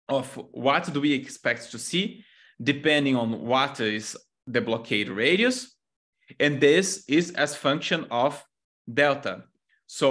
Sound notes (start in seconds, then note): none